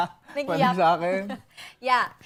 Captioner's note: laughs